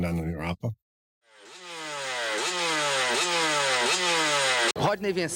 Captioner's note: engine humming